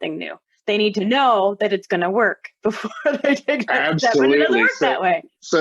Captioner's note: laughter